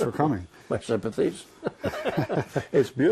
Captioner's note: laughter